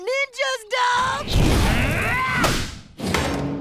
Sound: grunting

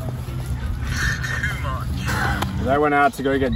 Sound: on phone

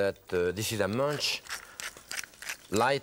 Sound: pepper cracking

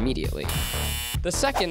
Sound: buzzer

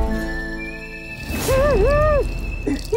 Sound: wheezing; urinating; wailing

